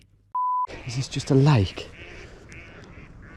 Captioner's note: beep